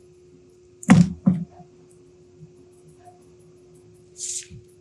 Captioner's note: box thudding